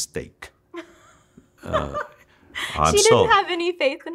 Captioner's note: laughs